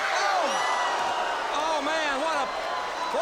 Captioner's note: crowd groans